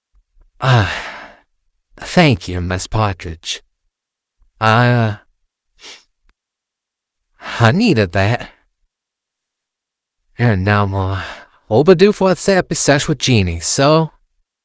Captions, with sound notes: [Sighs] Thank you, Miss Partridge. I, uh... [Sniffles] I needed that. And I'm, uh, overdue for a therapy sesh with Genie, so...